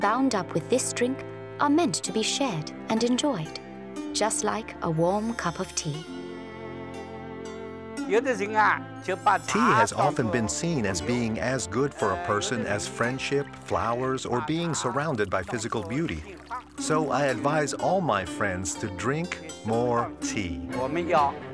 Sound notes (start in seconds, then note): 8.6 speaking Chinese